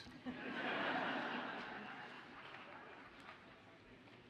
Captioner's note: audience laughs